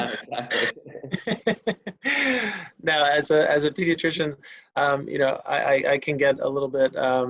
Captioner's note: laughs